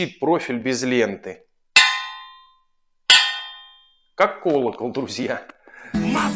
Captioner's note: ringing knock